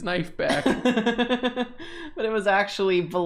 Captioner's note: laughing